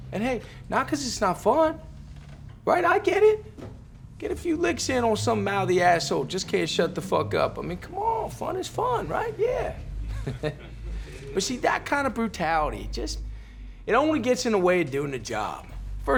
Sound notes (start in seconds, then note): 7.9 laughs